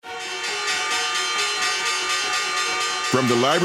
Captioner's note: bells chiming